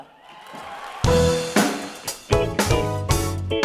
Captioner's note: cheering and applause